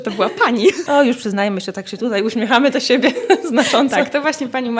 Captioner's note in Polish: śmiech